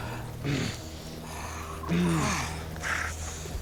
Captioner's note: grunts